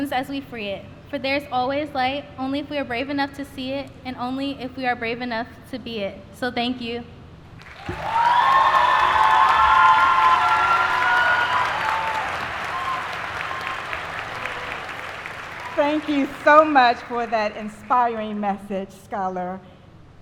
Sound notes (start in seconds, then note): 14.7 applause